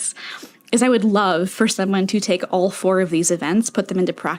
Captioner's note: inhale